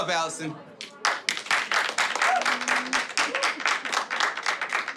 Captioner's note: audience clapping